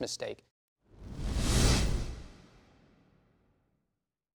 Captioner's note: swoosh noise